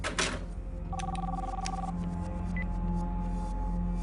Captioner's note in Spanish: Suena el teléfono